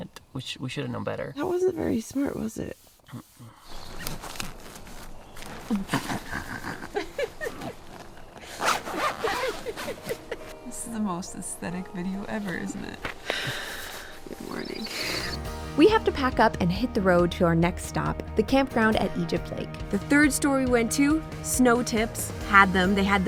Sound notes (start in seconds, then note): 9.2 laughs; 9.3 snickers